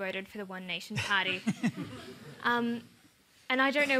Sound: chuckling

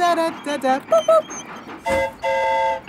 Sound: mimics train whistle; train whistle toots

